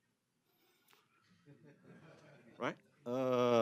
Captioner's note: laughter